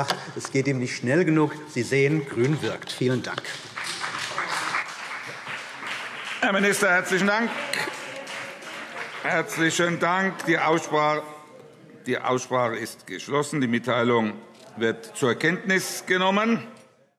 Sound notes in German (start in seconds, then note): 3.0 Beifall BÜNDNIS 90/DIE GRÜNEN